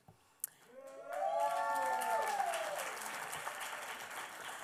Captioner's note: applause